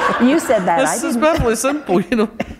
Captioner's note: laughter